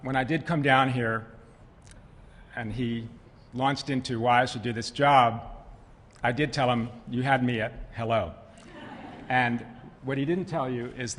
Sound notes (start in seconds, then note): 8.6 laughter